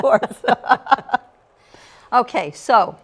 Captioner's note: laughter